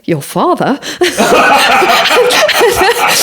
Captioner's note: laughs